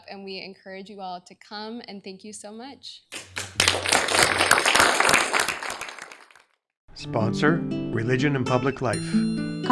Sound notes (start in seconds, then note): 3.1 applause